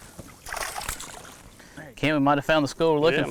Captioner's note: water splashing